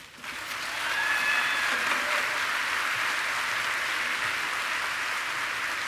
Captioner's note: audience applauding and cheering